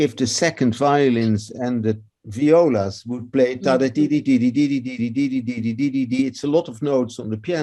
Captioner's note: cantarolando o ritmo